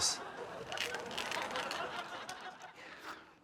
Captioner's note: tape creaks